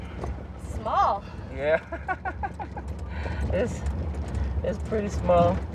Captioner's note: laughter